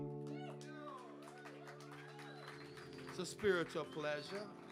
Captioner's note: audience cheering